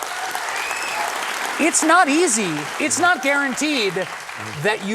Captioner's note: applause